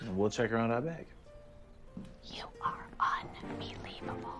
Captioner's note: whispering